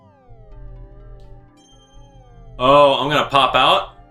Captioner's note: game sounds